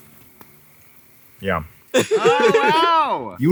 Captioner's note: Zach laughing